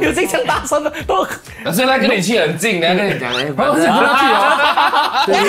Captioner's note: laughs